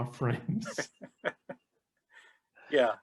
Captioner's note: chuckling